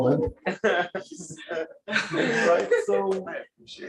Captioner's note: laughter